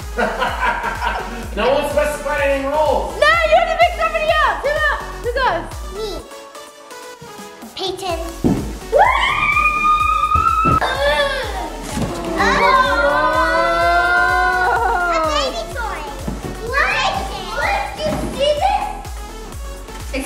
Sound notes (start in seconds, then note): 0.1 laughing; 8.9 excited screaming